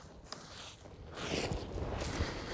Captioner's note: rustling